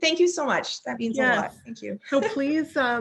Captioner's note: chuckling